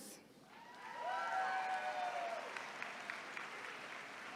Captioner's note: attendees cheering